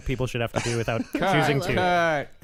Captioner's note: laughs